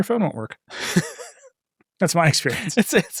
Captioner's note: laughing